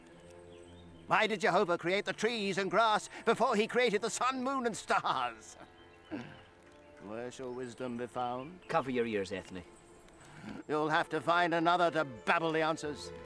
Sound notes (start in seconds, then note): 6.0 laughs; 7.7 mutters